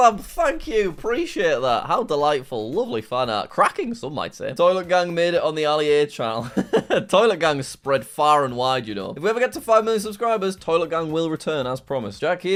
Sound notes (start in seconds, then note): 6.4 laughs